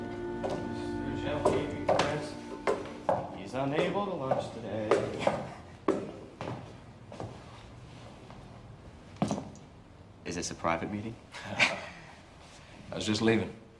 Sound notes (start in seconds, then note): 0.5 footsteps patter; 11.4 pair laughs